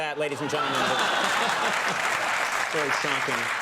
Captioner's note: audience clapping